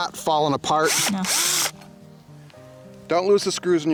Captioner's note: drilling